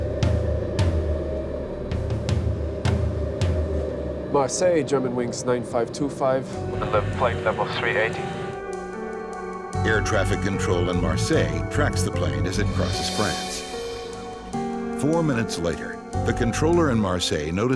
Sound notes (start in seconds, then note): 9.8 voiceover